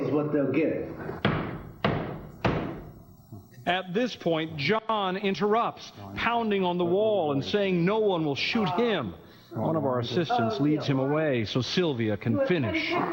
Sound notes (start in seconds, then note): 2.8 thumps wall three times